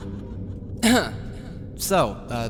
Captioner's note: throat clearing for comedy maybe?